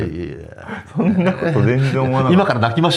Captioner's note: laughs